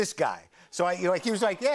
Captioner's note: audience aws